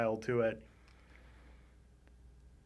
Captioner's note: inhales deeply; puffs softly